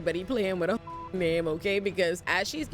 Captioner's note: beep